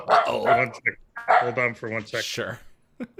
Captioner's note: dog barking